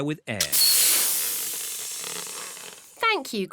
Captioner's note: air hissing